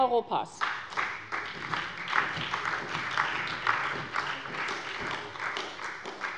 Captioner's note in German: Beifall bei der SPD